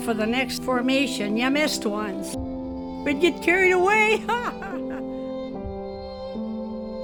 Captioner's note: laughs